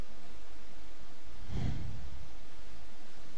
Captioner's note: sigh